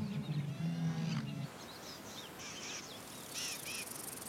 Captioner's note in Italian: cinguettii